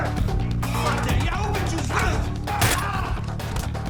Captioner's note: speaking serbian